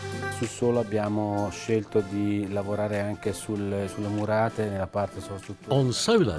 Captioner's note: speaking in foreign language